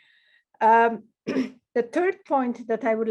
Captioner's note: clears throat